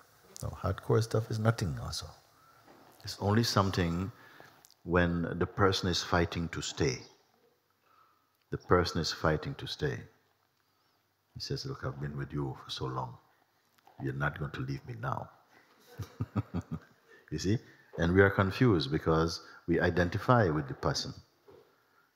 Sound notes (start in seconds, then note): 15.8 laughter